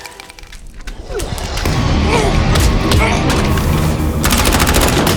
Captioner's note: dramatic music; footsteps pounding; man panting; men grunting; gun bangs